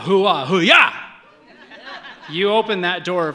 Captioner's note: audience laughs